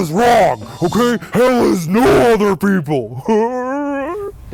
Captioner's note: moans